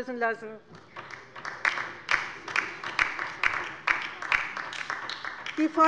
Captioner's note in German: Beifall bei der LINKEN